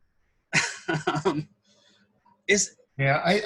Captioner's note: laughs